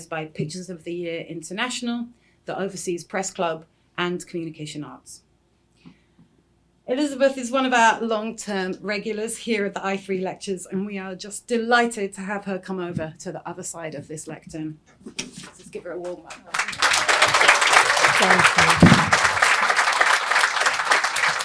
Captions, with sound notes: by Pictures of the Year International, the Overseas Press Club, and Communication Arts. Elizabeth is one of our long-term regulars here at the I3 lectures, and we are just delighted to have her come over to the other side of this lectern. So let's give her a warm welcome. [APPLAUSE] Thank you.